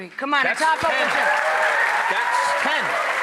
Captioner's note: audience applauding